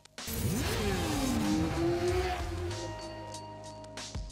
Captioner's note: motorbike engine roars